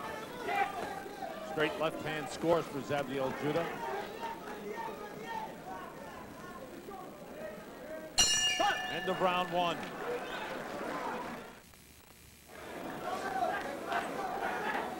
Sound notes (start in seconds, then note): 8.2 bell rings